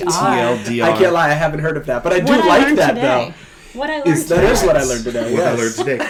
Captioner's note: laughing